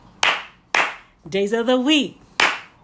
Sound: clap, clap; clap, clap

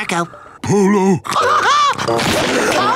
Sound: laughing

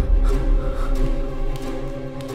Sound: panting and footsteps

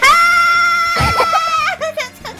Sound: laughing

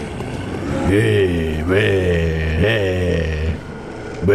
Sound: growling

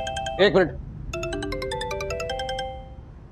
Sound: phone rings

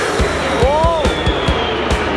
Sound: airplanes whistle

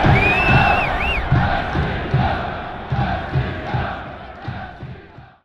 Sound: person whistling; people cheering

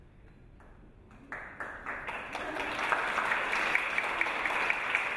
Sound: audience applause

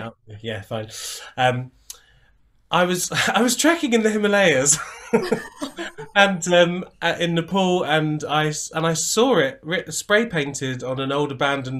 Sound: laughter

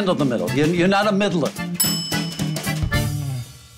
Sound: bell dings

